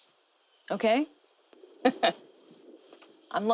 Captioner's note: chuckle